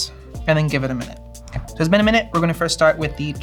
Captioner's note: air whooshing